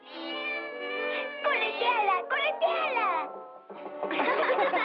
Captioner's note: meows; barking; all Laugh